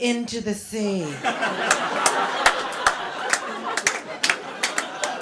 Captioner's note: laughter